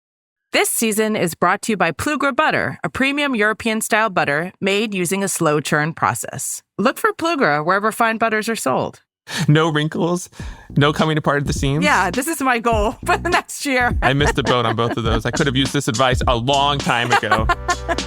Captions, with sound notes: - This season is brought to you by Plugra butter, a premium European-style butter made using a slow churn process. Look for Plugra, wherever fine butters are sold. - No wrinkles, no coming apart at the seams. - Yeah, this is my goal for the next year. (laughs) - I missed a boat on both of those. I could have used this advice a long time ago.